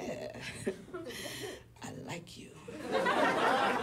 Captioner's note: audience laughs